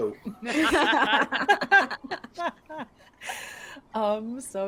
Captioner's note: people laughing